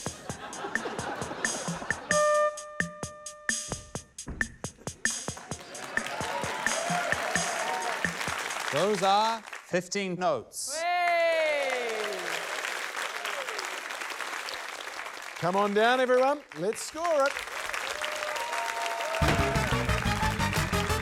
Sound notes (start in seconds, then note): 0.0 laughter; 2.1 note two plays; 5.3 cheering, applause; 11.5 cheering, applause; 19.0 cheering, applause